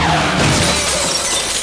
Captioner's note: brakes screech